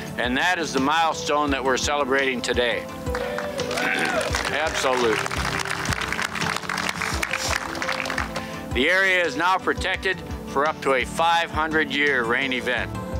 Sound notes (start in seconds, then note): 3.1 crowd cheering; 6.8 crowd applauding